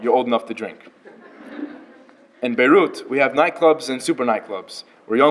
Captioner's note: laughter